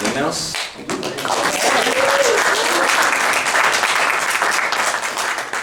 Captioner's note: clapping and cheering